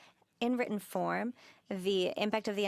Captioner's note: speaking French